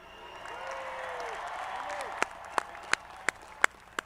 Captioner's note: audience applauding